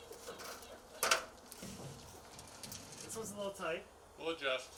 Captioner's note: birds singing